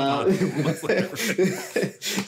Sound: laughing

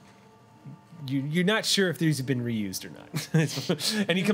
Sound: chuckles

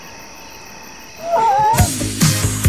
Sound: all scream; upbeat music

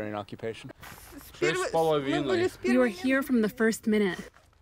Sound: through translator

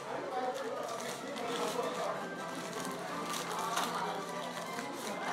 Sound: wrapper crinkles softly

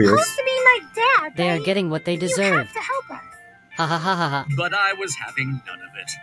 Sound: laughs

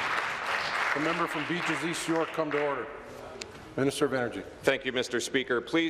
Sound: applause

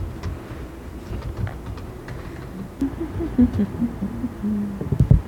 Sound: laughter

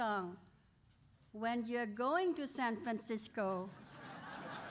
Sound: laughter

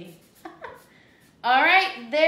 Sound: laughs

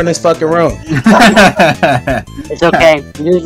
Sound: laughter

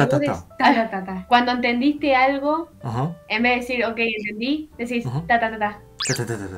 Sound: Spanish

